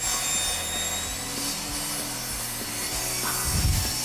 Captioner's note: power tools whirring